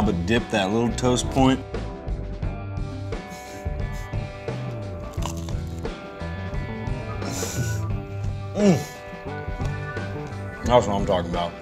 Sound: chewing sounds

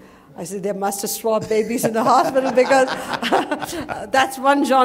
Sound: laughter

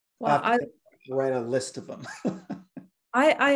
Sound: chuckles

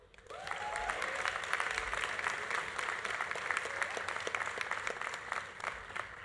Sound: audience applauding; audience cheering

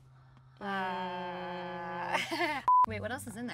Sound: girls humming

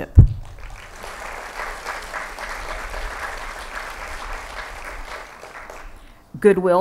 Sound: applause

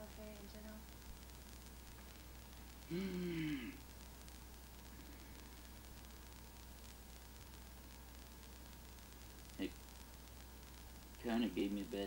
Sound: sighs

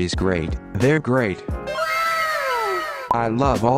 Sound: かわいい wow sfx

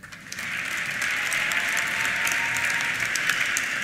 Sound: applause; cheers

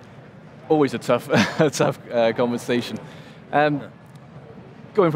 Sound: chuckling

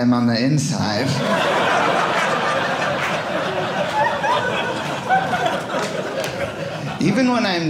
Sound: audience laughing

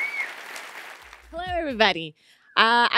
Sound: applause

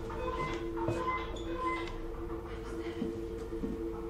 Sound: beeping

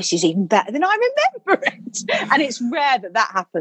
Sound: laughing

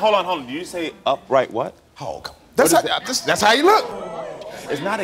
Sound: audience gasps

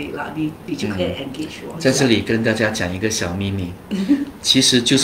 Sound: whisper

